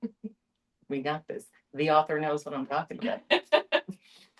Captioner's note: laughs